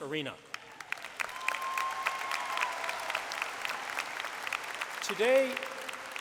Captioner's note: applause